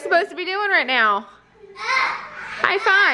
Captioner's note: children screaming playfully; children yelling